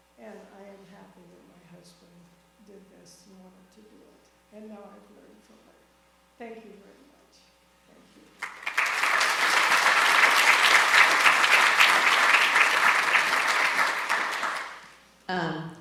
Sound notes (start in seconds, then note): 8.4 audience applauding